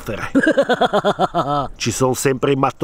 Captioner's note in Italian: Muahahahahahahah